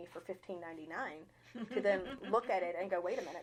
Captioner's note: chuckling